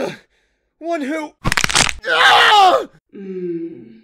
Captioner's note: Bones crack as The Medjai screams in pain